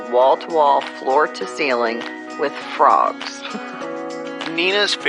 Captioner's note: laughing